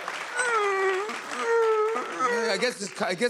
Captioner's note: sobbing